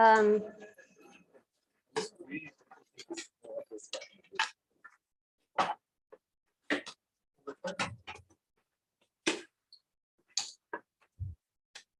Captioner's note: indistinct conversation